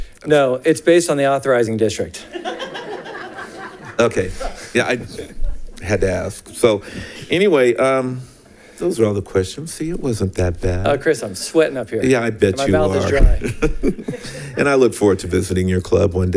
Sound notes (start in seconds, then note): 2.2 congregation laughs